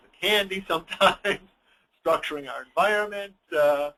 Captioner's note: laughs